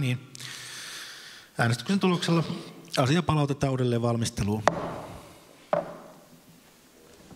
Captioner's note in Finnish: Nuijan kopautus